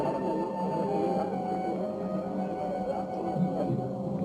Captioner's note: light music; indistinct chattering